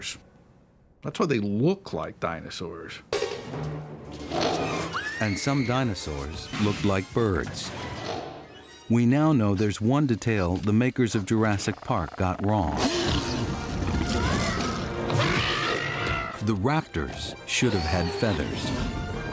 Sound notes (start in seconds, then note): 4.5 screams; 12.7 growling; 14.3 screeches